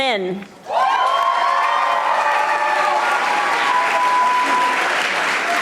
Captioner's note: audience applauding